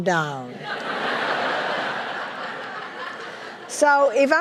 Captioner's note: laugh